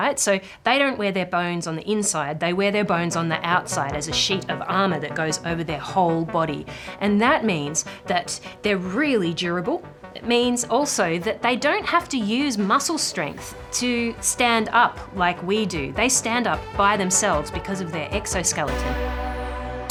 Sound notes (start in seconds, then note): none